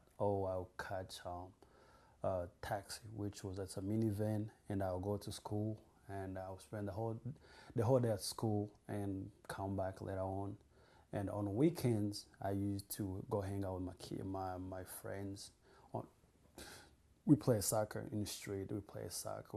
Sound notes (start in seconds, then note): none